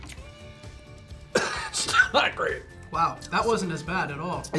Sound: coughs

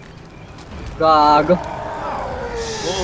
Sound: the sounds of a very angry 12ft gorilla

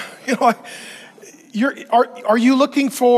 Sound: chuckling

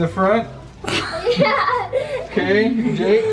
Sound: laughs

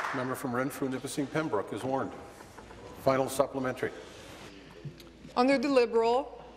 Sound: applause

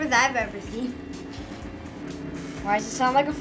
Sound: fax machine buzzing

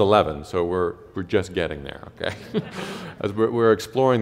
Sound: chuckle

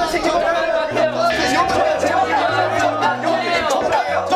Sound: shouting out loud

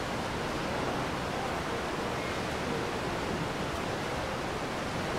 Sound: water rushing

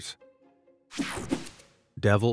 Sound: logo whooshing

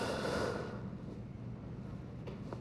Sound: sighs

